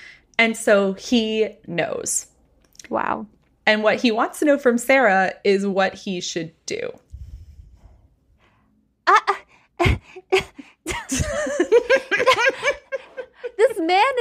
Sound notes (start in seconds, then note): 8.6 confused sounds; 10.9 laughing